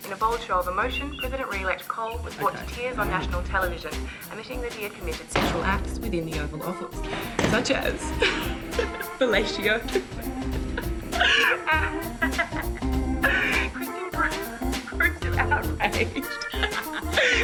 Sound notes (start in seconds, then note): 10.7 host laughing